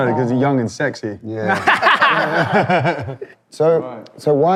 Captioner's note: laughing